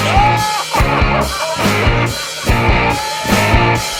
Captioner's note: laughing; upbeat rock music